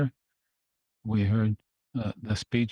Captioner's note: speaking French